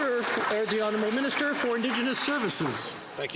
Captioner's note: some Applause